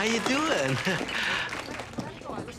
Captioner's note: chuckling